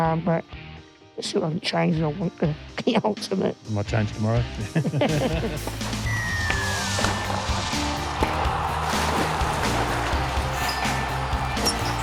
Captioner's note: laughter